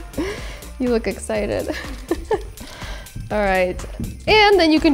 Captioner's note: laughing; laughs